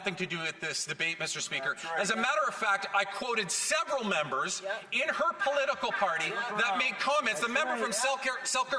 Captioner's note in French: voix de l'interprète